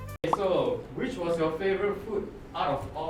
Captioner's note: none